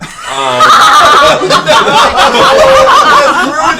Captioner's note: all laugh